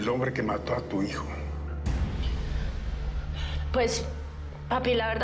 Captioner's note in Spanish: none